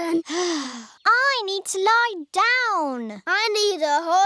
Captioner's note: sighs